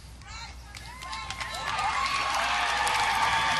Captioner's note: audience applause